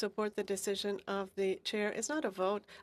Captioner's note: speaking in French